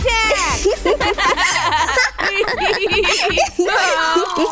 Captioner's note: laughter